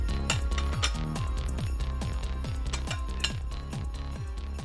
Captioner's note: utensil clinks